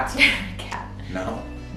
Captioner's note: laughs